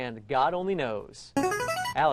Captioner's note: ringer